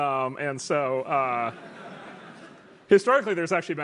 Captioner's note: laugh